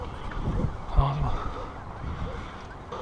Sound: alarm

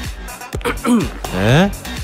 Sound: coughs

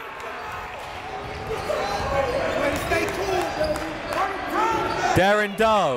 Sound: crowd talking; coaches yelling

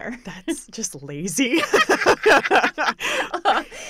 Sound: laughter

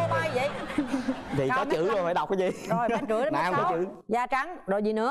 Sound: laughing

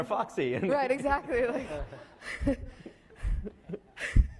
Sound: laughing

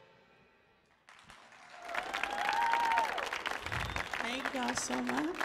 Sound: audience cheers

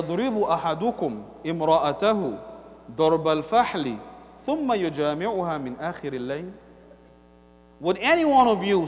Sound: Arabic

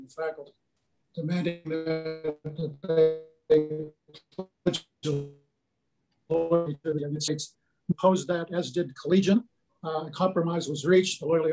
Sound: choppy audio

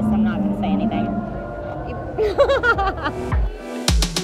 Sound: laughs; upbeat techno music

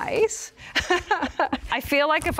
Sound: laughs

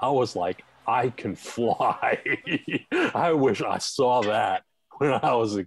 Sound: laughing

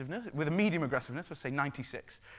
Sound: none

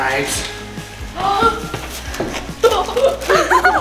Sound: gasps; giggles

